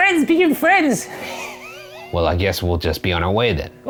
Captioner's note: giggles